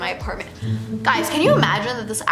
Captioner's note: comic failure sound